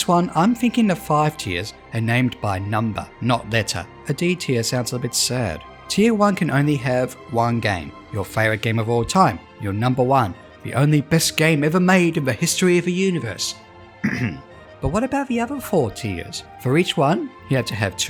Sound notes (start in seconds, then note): 14.0 ahem